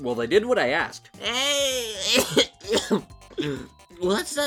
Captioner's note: coughing